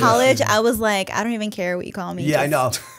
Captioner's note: chuckle